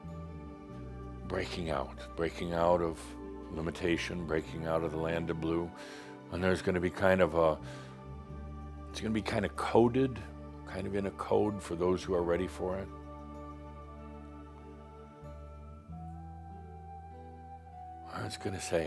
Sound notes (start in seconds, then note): none